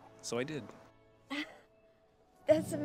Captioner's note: Keely chuckles